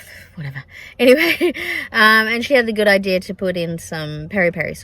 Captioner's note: laughs